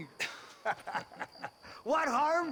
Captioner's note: laughs